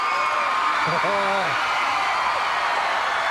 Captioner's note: crowd cheering